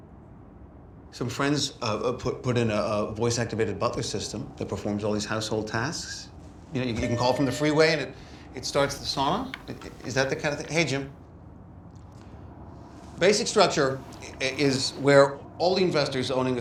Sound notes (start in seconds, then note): 6.9 intercom beeps